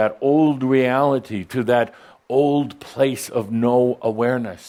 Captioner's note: none